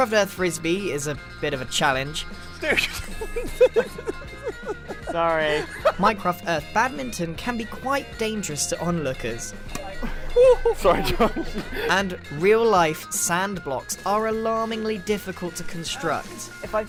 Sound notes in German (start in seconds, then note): 2.4 lacht